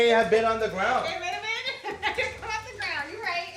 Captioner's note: chuckles